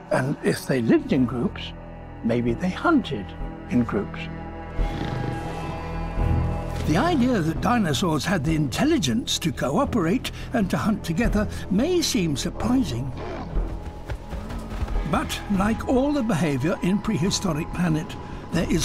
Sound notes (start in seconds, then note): 4.8 growling